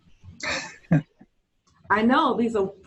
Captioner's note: chuckling